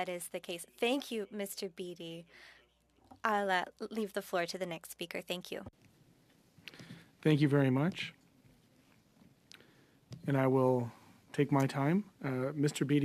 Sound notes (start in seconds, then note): 4.4 speaking French